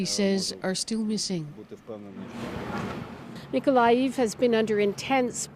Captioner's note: speaking Foreign Language